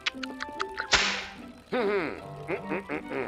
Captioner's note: grunts